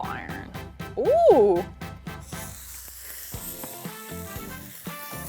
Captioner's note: soft sizzling